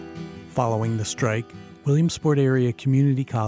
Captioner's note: voiceover